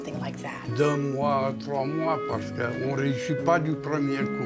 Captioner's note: speaking native language